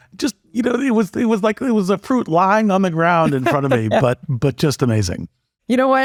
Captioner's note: laugh